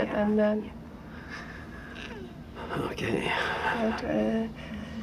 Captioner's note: inhales